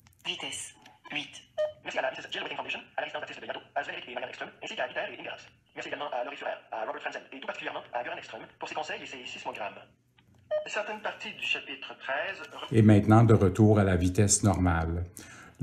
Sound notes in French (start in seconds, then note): 1.7 le lecteur de livre parle très rapidement; 10.5 l'appareil émet un bip